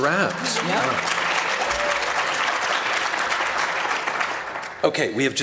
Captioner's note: applause